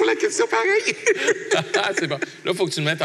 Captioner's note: laughs